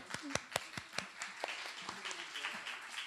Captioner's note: applause